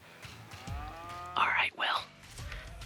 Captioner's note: cow moos; whispering